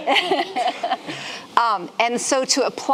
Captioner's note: laughing